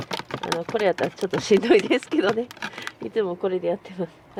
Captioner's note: laughs